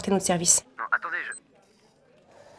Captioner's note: on the phone